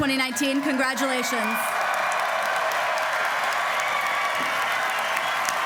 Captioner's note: applause